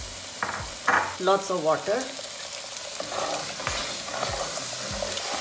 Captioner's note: pan sizzling